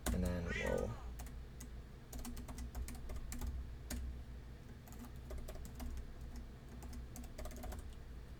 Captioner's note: typing